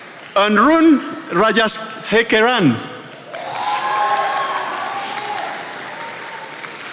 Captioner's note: attendees applauding